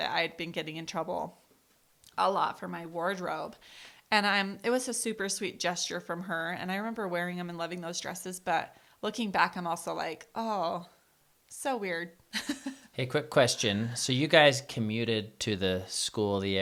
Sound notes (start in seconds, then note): 12.4 laughs